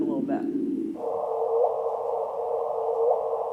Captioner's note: whooshing